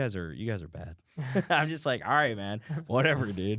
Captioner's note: laughs